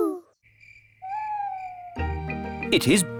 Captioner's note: crickets chirping